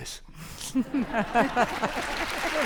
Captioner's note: audience laughing; audience applauding